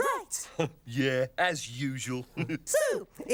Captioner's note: chuckles